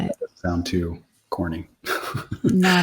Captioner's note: laughs